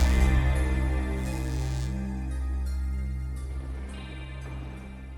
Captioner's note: dreamy electronic music; time travel sounds